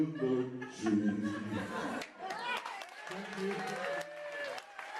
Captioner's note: applause